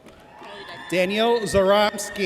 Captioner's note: audience cheers